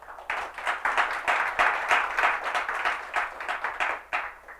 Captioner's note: applause